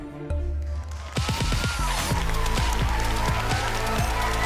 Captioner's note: cheers and applause